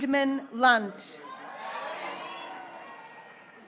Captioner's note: graduates cheering